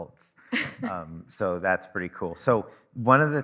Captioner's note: chuckling